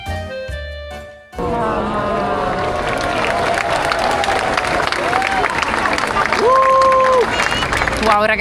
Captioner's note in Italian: Applauso